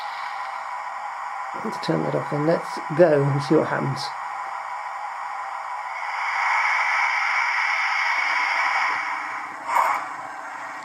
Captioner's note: chuffing sounds